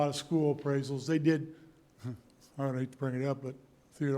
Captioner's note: chuckle